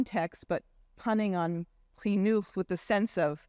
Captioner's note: speaking in Hebrew language